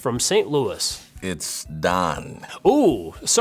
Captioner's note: deep voice